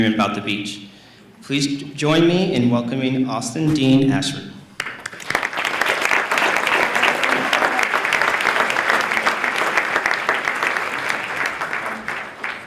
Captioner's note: applause